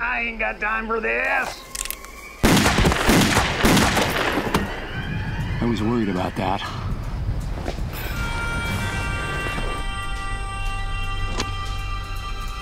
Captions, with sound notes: - I ain't got time of this. (fires gun) - I was worried about that. (dramatic music)